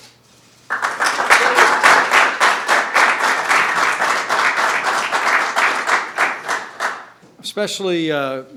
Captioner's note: applause